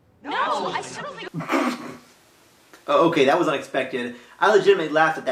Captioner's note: stifles a laugh